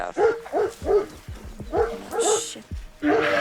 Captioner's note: dog barking